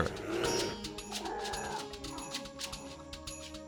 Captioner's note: bear growls